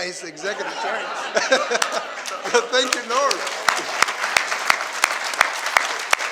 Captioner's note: laughs